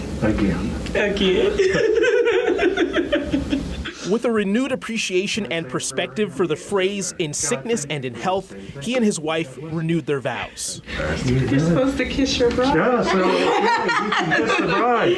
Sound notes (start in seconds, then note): 4.6 laughter